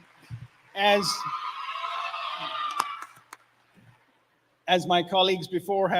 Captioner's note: applause